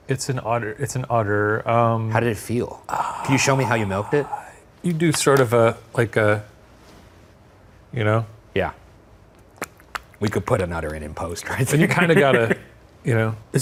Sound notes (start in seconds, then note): 9.5 imitates udder splashing